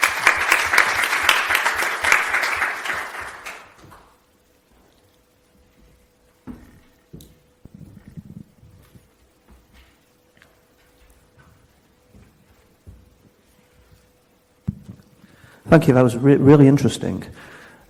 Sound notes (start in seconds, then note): 0.0 audience applauds; 6.3 walking on floor